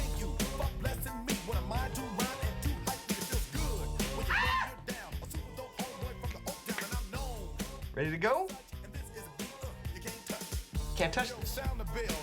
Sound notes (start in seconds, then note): 6.8 high-pitched voice